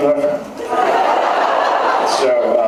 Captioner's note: laughs